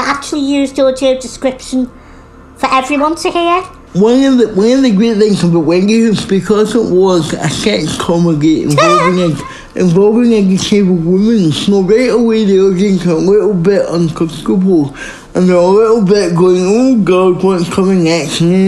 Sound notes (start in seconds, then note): 8.7 laughing